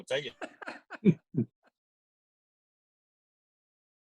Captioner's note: laughs